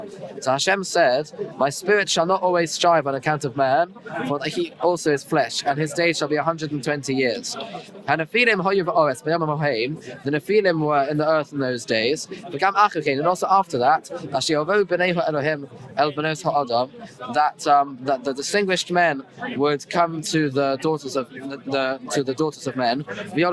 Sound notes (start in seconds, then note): 7.8 Hebrew; 12.3 Hebrew; 23.2 Hebrew